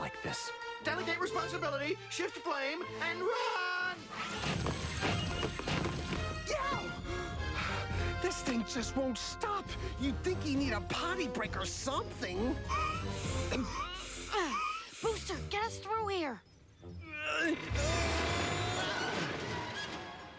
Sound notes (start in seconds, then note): 12.8 gasping; 17.7 booster grunting